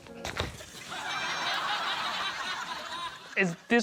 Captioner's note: laughter